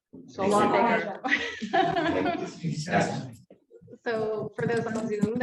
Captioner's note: laughs